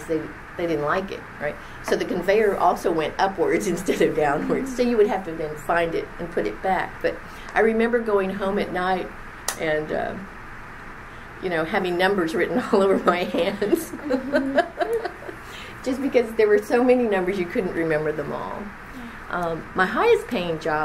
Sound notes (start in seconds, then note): 13.4 laughs